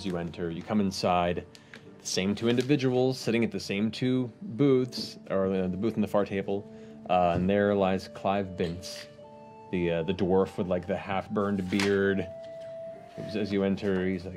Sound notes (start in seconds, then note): none